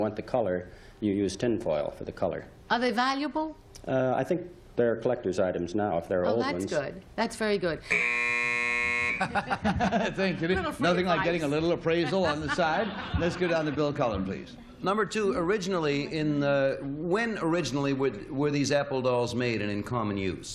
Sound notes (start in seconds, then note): 9.2 laughter; 9.7 buzz